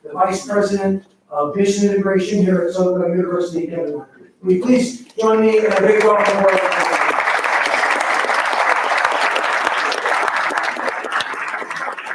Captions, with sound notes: the vice President of this integration here at Soka University, Kevin Moncreif. Will you please join me in a big round of applause (round of applause drowns out speaker)